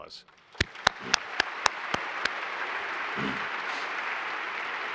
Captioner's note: all applauding